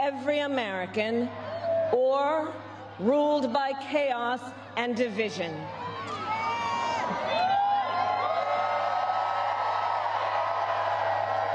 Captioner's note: cheers and applause